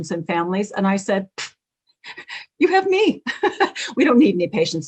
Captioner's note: laughs